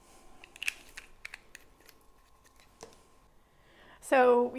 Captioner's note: lid clicks